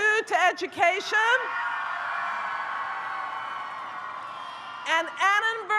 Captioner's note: audience cheers